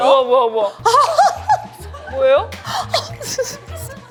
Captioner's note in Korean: 보자마자 저항 없이 터진 웃음